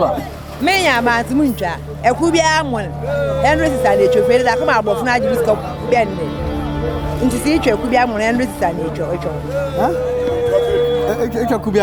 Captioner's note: speaking Fante